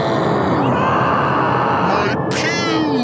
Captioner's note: hair yelling